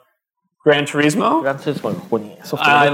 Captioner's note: speaking japanese